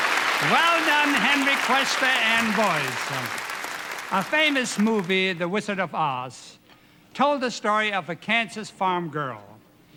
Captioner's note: applause